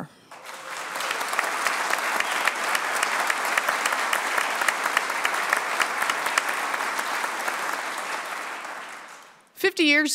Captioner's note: applause